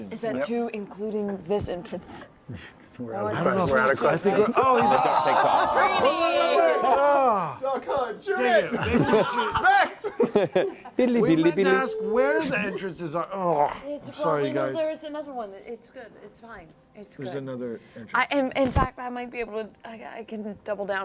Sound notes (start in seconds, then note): 3.1 flapping wings